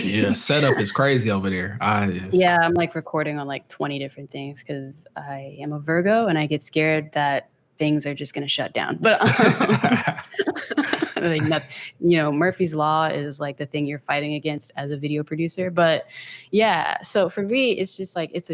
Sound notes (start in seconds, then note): 9.1 pair laughs